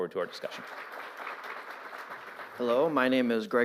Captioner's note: applause